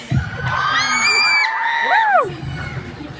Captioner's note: audience cheers